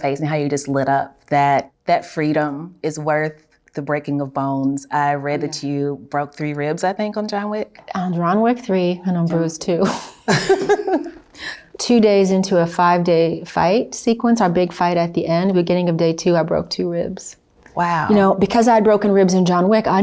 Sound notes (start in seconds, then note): 10.2 both laughs